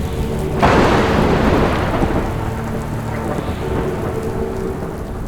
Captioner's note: thunder crashing